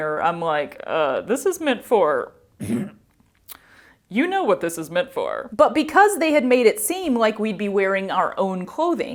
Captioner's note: ahem